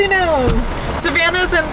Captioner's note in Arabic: صوت المطر